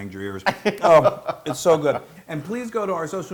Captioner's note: laugh